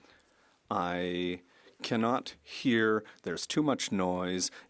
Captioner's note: speaking French